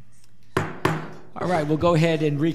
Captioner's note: knocking